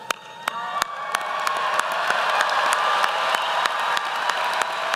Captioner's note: applause